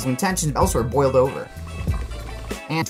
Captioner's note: pot boiling